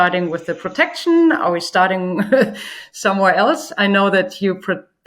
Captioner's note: laughs